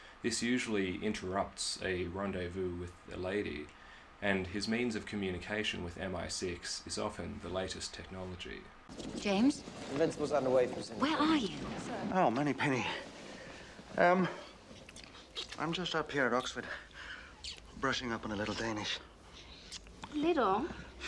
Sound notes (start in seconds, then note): 8.9 office noise; 14.3 kissing; 16.9 kiss